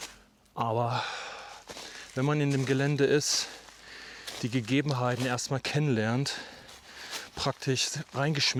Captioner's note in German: seufzt